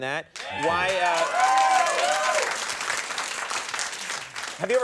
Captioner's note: audience cheering